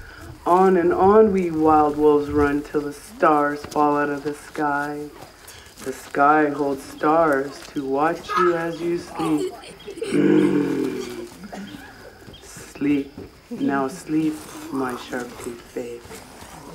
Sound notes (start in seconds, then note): 10.1 growl